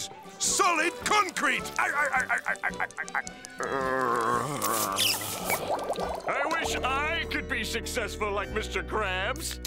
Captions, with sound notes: Solid concrete! [laughing] [moaning] I wish I could be successful, like Mr. Krabs!